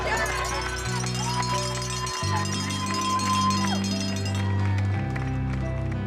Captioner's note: cheers, noisemakers clanging